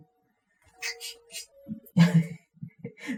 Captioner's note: sipping